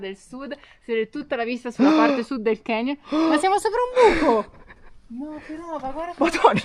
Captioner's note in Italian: suono gutturale